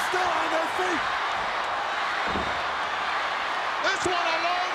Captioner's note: crowd yelling